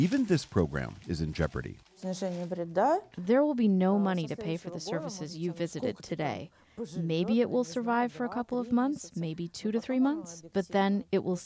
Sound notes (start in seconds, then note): 2.8 through translator